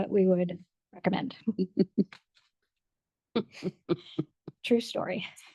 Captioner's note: board member laughs